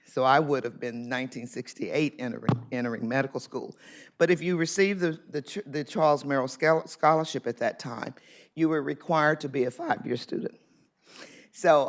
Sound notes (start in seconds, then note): none